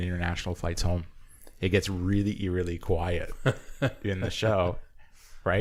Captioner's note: laughter